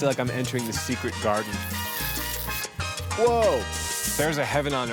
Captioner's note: slurps